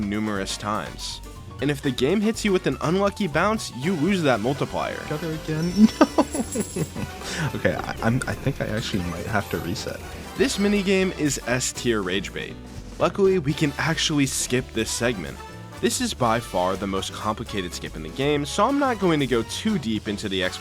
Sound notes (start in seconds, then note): 5.6 cat collar angry jingle